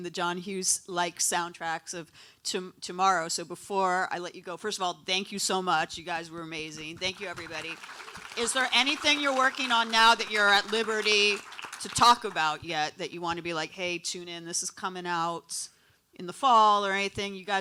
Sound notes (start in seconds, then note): 8.5 audience applauds